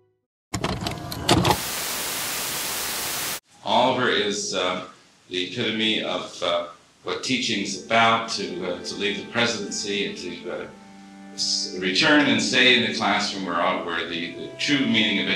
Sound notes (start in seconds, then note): 1.4 tv static hiss